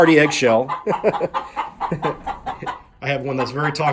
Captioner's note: laughs as. chicken makes clucking sounds